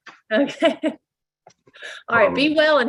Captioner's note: laughs